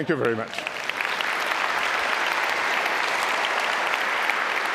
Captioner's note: applause